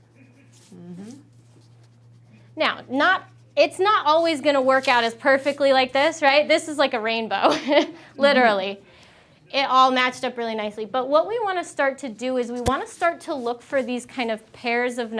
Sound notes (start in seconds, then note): 8.0 chuckling